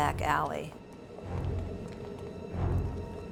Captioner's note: footsteps echoing